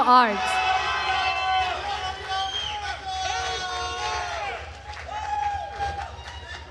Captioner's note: attendees cheering and applauding